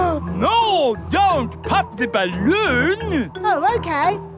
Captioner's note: gasps